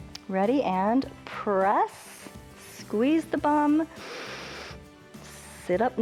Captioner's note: inhales